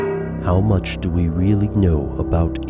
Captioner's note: voiceover